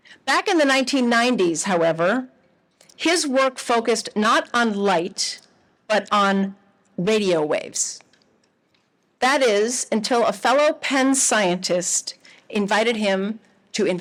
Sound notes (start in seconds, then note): none